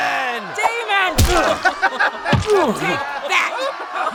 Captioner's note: laughing